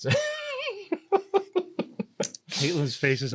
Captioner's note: laughing